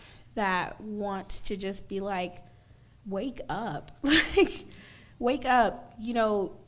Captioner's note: laughs